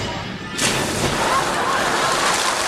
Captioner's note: water splashing; audience clapping